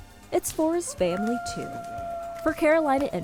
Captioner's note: students cheering